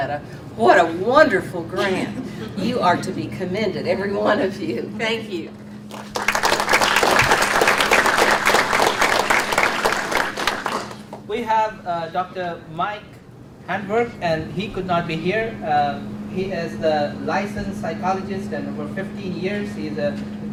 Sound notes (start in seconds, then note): 5.8 audience applauds